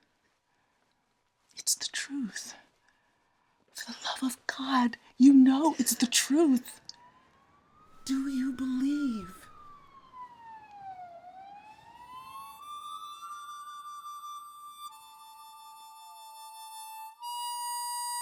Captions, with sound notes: It's the truth. For the love of God, you know it's the truth! Do you believe? (sirens blaring) (melancholic harmonica music)